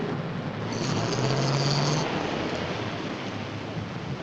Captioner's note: car rumbling